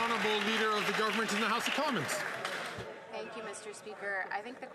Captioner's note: some Applause